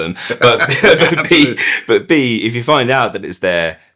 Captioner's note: laughing